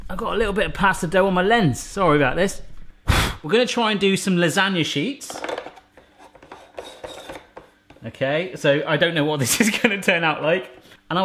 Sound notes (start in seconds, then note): 2.9 blowing